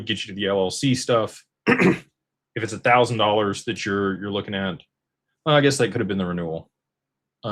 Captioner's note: clears throat